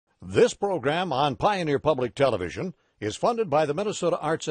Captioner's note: voiceover